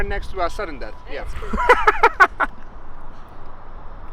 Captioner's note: laughs